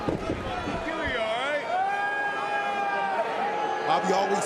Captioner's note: crowd chatter